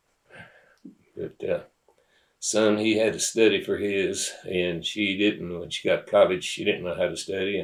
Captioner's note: laughs